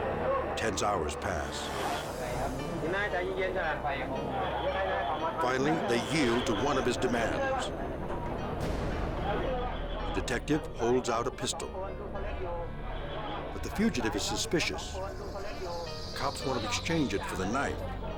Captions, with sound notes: Tense hours pass. (all speak in foreign language) Finally, they yield to one of his demands. Detective holds out a pistol. But the fugitive is suspicious. Cops want to exchange it for the knife.